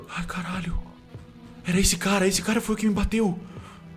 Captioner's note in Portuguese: none